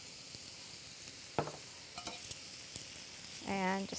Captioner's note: sizzling